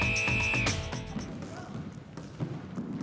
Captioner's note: <i> whistle blowing</i>